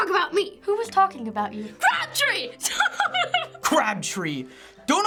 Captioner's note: laughs